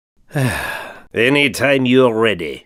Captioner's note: sigh